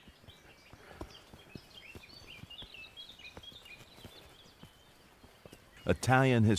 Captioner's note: birds chirping; footsteps thumping